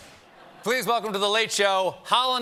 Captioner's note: laughter